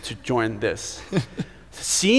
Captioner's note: laughing